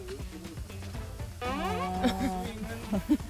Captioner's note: haha